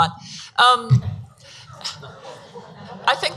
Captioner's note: audience laughs